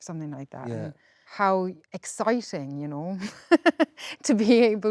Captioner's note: laughs